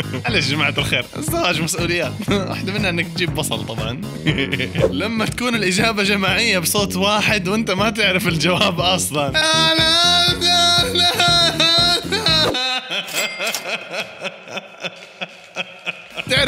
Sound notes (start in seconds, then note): 9.4 yelling gibberish words; 11.9 laughter